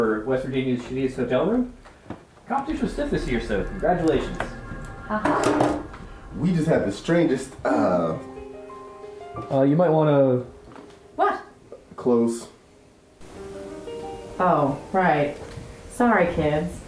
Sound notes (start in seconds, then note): 5.0 sarcastic